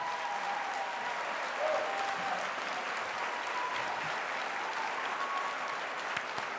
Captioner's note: applause